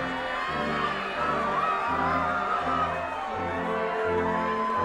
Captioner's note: attendees cheering